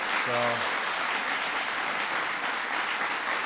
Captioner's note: applause